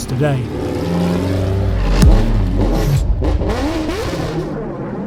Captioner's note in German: Motor heult auf; dramatische Musik